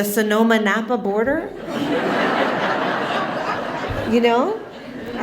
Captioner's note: laughter